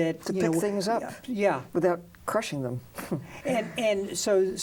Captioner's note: chuckles